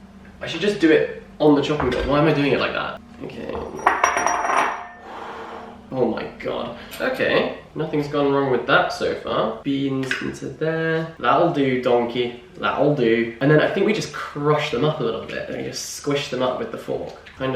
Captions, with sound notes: I should just do it on the chopping board. Why am I doing it like that? Okay. [sigh of relief] Oh my god, okay, nothing's gone wrong with that so far Beans into there That'll do donkey, that'll do and then I think we just crushed them up a little bit and just squish them up with the fork